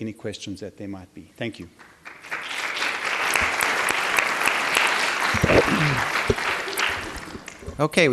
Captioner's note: applause